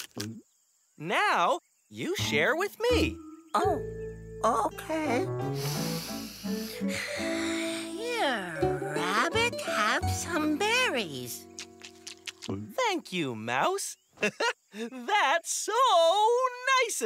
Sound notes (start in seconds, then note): 5.5 deep breath; 11.5 crunches and gulps; 14.2 chuckles